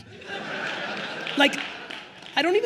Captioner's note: attendees laughing